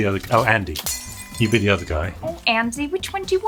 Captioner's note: glass breaking